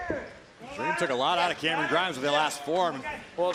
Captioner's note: crowd chatter